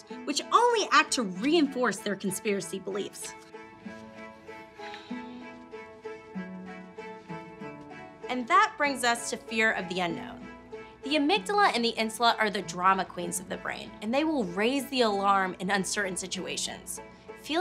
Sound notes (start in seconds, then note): 4.8 sighs; 4.9 playful music